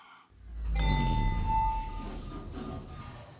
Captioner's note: elevator ring